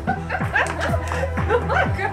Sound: devil woman laughs

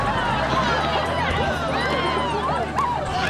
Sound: cheering

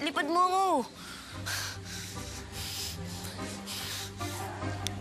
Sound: Pedrito breathing heavily

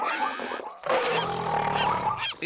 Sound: roaring

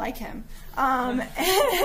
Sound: giggling

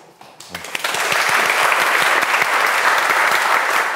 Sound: audience applauding

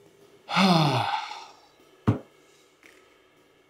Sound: sighs

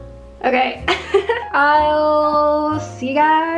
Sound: laughs

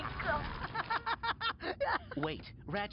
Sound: laughing

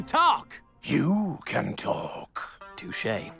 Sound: none

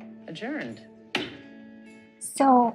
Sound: gavel clacks

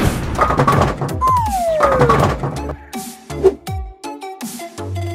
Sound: whip cracking; rolling and thudding; comical tooting

